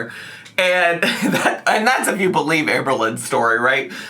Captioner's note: laughing